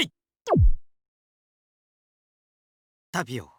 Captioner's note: silence